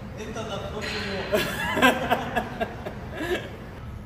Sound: laughter

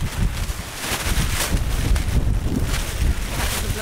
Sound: wind

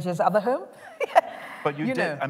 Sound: laughter

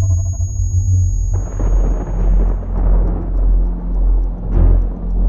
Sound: thunder

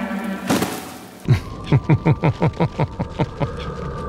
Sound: smug laughter

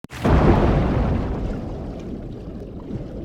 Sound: water bubbling

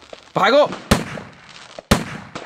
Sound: gunshot

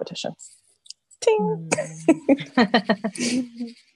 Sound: laughs

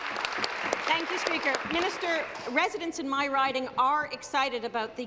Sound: applause

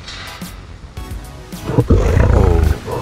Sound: lion roar effect

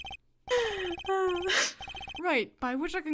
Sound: sigh

